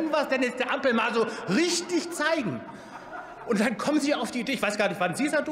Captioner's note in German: Heiterkeit beim BÜNDNIS 90/DIE GRÜNEN